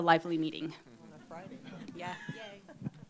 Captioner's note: laughter